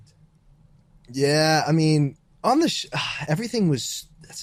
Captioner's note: chuckles